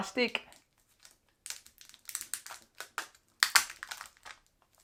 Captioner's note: plastic crackling